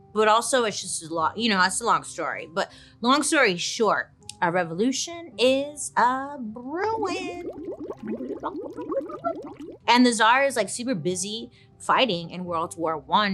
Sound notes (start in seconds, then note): 6.9 imitates liquid bubbling; 6.9 liquid bubbling